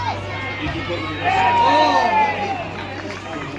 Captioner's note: general cheers